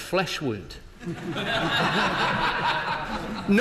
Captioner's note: laughter